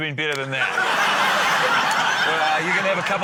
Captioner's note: laughter